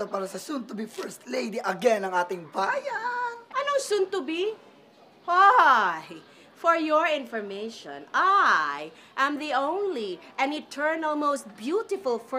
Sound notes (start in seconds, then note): none